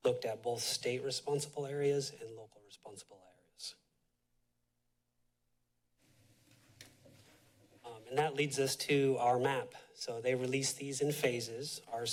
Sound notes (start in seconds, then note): 3.7 silence